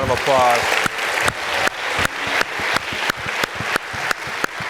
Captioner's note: audience applauds